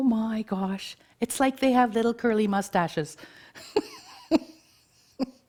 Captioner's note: chuckles